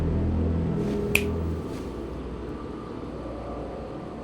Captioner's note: fingers snapping